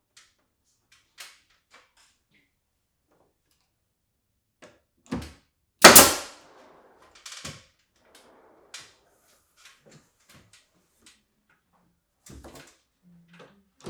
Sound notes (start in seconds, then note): 5.8 nail gun popping